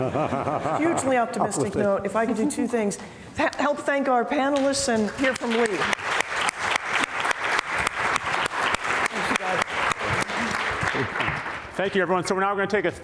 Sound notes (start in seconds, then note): 0.0 panelist laughing; 5.0 both panelists and audience applauding; 11.0 audience applauding